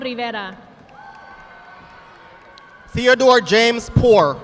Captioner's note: audience applauding